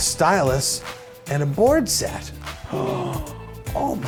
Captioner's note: gasp